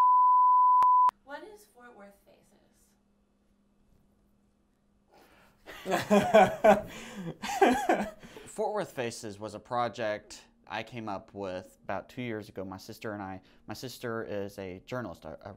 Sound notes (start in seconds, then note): 5.7 uncontrollable laughing